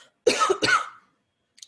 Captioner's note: cough, cough